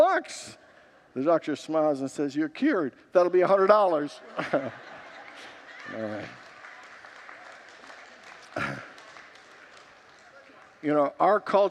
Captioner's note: congregants laugh